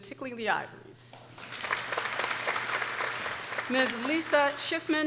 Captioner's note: people applauding